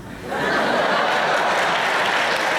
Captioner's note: laughter; applause